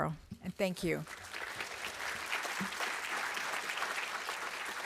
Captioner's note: applause